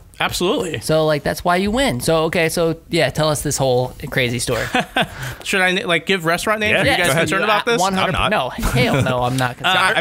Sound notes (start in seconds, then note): 4.5 laughter